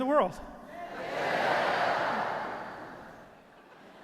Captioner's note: crowd; audience laughing